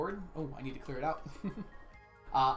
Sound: chuckles

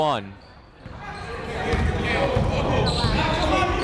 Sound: chatter

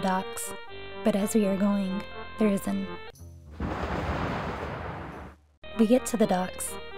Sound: explosion

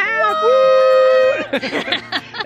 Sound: cheers; laughs

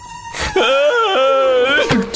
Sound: crying

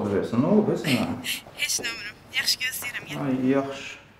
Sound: laughing

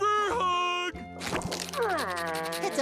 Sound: groaning

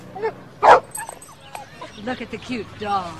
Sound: dog barks

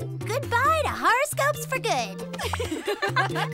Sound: all giggle

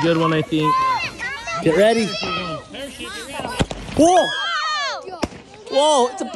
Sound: kids shouting

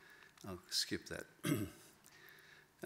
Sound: clears throat

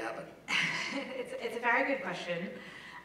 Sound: laugh

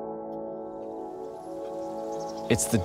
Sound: bird song

